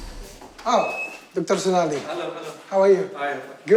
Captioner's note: speaking in foreign language